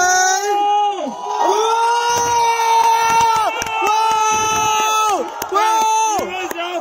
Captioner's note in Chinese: 歡呼